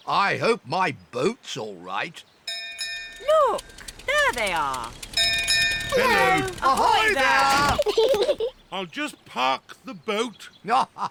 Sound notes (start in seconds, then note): 2.5 bell rings; 5.9 peppa and george giggle